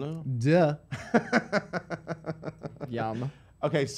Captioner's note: laughter